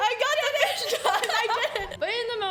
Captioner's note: laughs